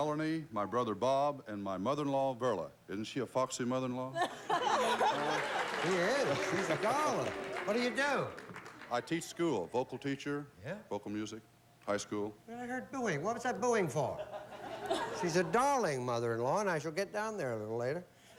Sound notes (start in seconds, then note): 5.2 audience boos